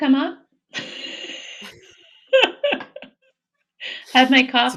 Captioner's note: both laughing